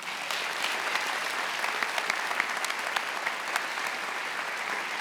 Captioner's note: attendees applauding